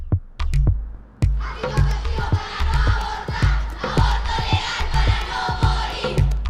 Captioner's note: girls shouting…